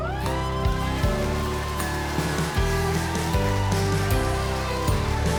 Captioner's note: crowd wildly cheering